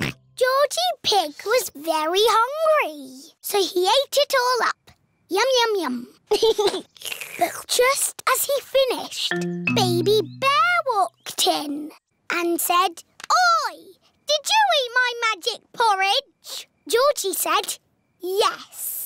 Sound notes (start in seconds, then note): 6.3 giggles; 6.9 slurps